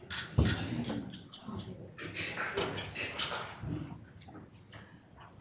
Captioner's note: members chattering